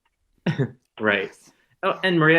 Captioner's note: chuckles